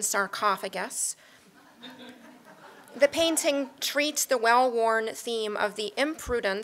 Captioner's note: laugh